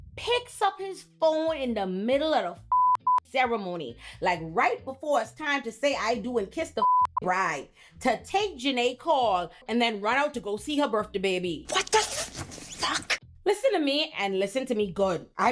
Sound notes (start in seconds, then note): 2.7 beep; 6.8 beep